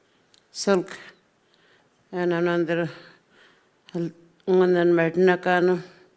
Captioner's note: speaking Anmatyerr